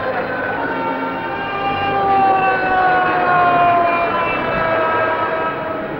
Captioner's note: siren